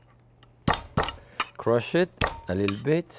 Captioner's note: Jacques bangs palm